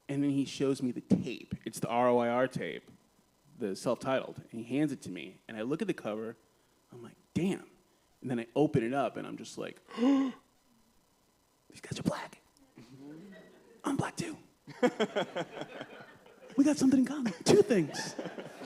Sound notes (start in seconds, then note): 9.9 gasps; 14.6 laughter